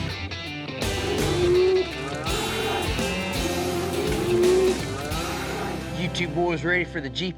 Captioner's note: mooing